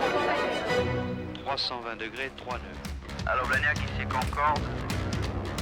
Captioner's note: speaking French